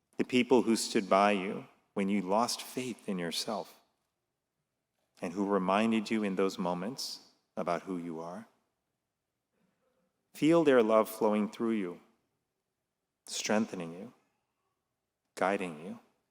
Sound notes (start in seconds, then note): none